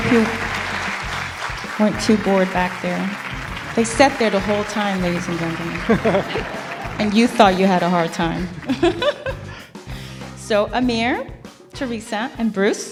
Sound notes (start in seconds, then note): 10.4 laugh